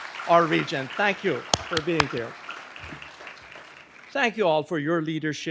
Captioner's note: claps hands